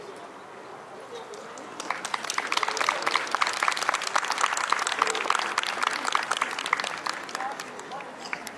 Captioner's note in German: Applaus